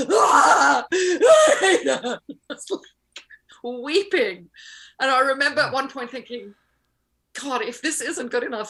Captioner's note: screams